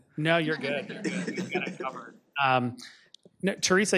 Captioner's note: audience laughs